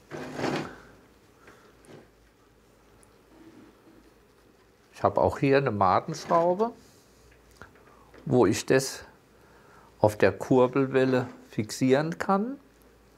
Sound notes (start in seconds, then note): none